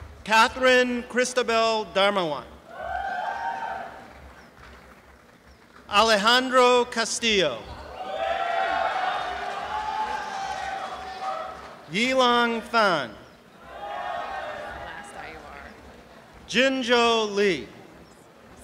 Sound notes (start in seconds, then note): 3.4 applause; 9.6 applause and cheering